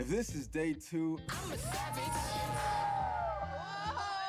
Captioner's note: cheering